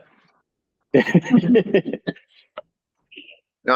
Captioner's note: laughter